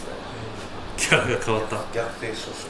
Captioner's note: laughs